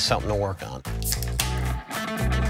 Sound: can opening

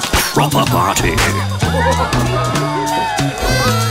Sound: laughter

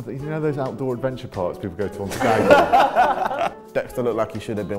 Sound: laughter

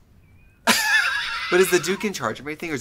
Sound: Katya laugh

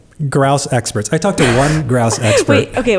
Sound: laughs

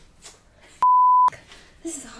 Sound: beep

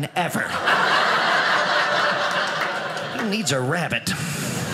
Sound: audience laughing

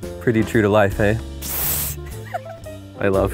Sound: laughter

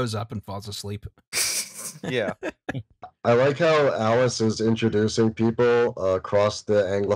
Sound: laughter

